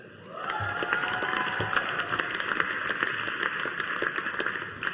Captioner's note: audience applauding